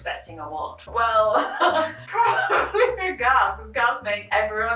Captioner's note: laughing